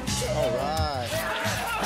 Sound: yelling

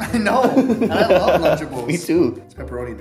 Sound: laughter

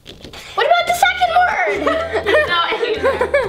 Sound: laughs

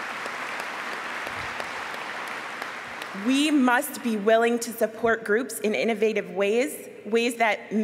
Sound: applause

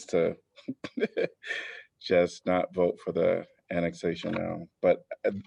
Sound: laughter

